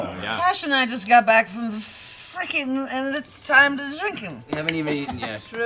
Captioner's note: slurring